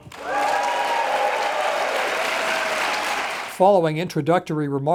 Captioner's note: audience cheering and applauding